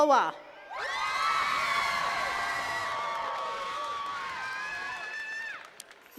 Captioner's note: attendees cheering and clapping